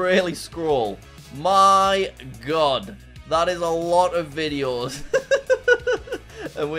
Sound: laughs

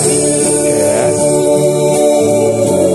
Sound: laughs

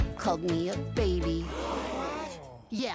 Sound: all gasp

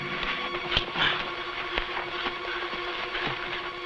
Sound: tense music; men grunting

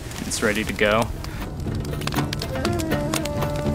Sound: fire crackling; folk music plays

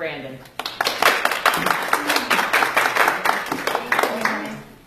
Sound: applause

